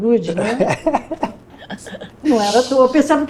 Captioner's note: laughter